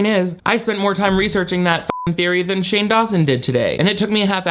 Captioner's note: beep